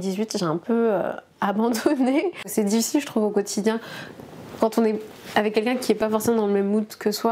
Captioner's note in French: rires